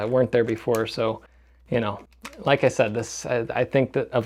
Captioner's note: none